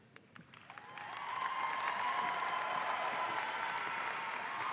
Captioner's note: audience applauds